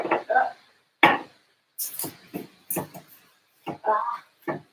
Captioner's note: jars thudding